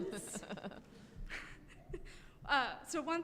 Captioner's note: chuckling